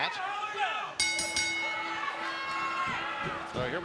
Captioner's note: bell ringing